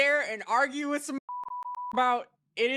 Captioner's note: beep